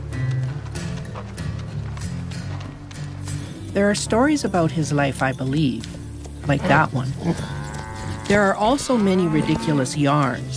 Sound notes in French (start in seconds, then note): 6.6 meuglement